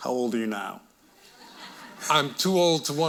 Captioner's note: audience laughing